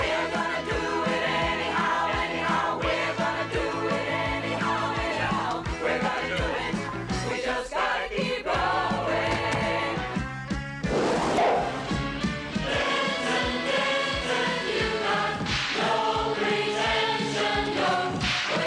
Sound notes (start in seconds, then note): 10.9 Хлопает пробка